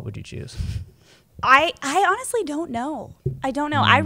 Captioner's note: laughs